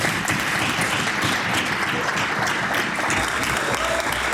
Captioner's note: applause